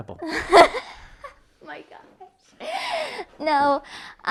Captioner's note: laughs